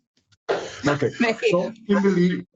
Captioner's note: laughs